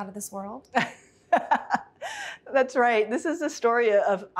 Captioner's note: laughs